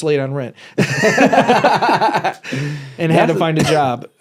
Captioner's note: both laughing